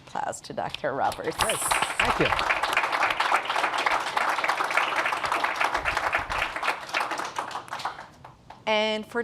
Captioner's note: applause